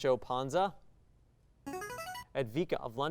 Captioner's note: signaling device tone